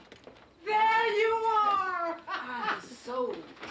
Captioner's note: laughs